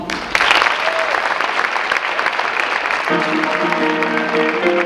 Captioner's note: audience clapping